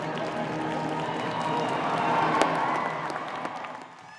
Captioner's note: applause